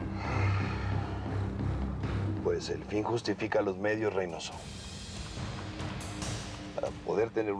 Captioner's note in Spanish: exhala